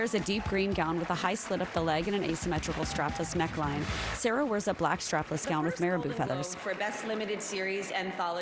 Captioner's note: applause